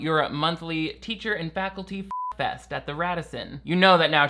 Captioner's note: beeps